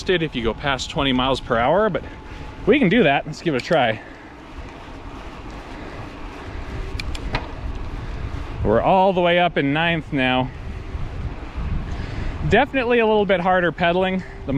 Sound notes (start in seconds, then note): 4.3 air whooshing; 5.3 wheels whizzing